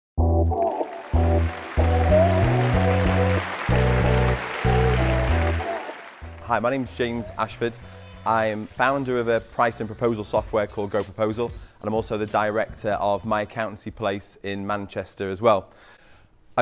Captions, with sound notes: (smooth music) (audience applauding) - Hi, my name's James Ashford. I am founder of a price and proposal software called GoProposal, and I'm also the director of My Accountancy Place in Manchester as well.